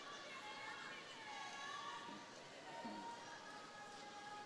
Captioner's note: crowd cheering